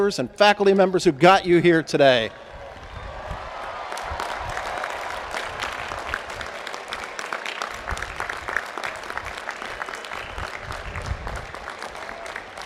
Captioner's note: applause